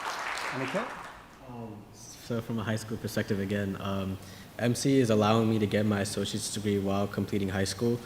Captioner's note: applause